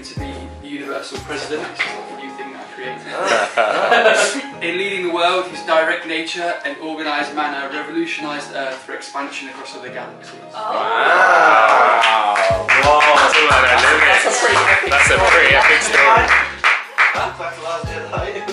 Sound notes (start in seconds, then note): 3.1 laughter; 11.6 applause